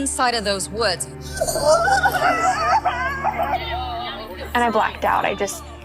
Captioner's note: crying